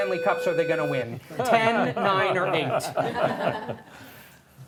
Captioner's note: laughter